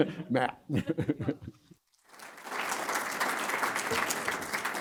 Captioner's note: applause